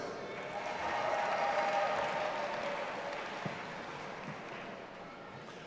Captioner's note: audience applauding and cheering